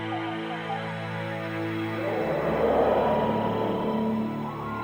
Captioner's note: jungle sounds